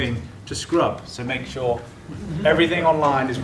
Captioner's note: laugh